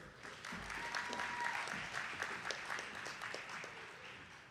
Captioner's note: attendees clapping